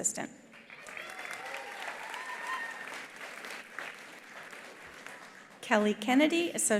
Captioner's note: attendees applauding; attendees cheering